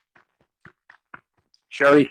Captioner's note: clapping